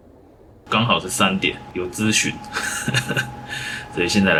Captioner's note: laughs